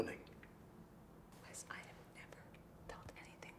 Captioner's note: whispers